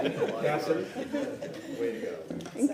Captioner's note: laughter